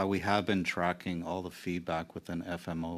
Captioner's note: speaking in French